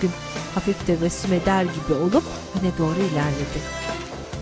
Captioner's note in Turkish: Ayak sesi; Müzik - Arabesk